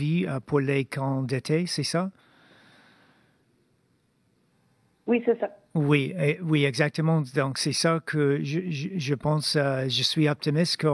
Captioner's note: speaking French